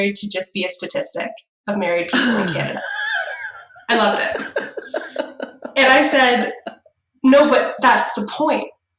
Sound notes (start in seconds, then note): 2.1 laughs